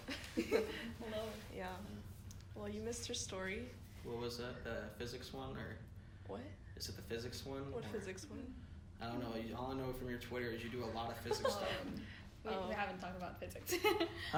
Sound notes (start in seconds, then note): 0.1 laughing; 11.2 giggles; 13.9 laughs